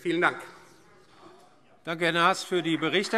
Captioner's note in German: Beifall Freie Demokraten